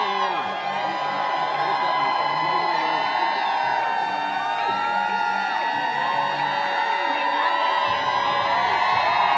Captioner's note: applause